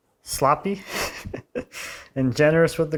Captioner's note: laughing